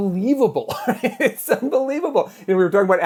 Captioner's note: laughs